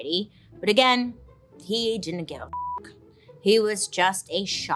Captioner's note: beeps